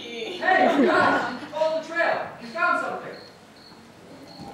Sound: audience laughter

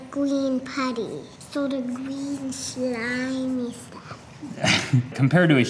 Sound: chuckling

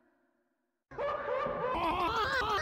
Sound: crying

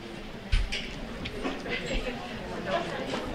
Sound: murmuring

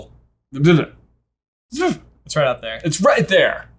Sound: stuttering

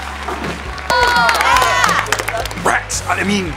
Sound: cheering

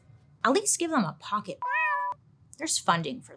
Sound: cat meows

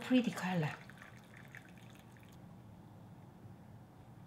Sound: water gurgling

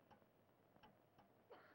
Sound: Helen coughing

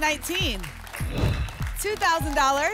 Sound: whoosh

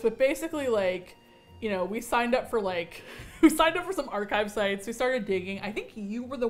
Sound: laughs

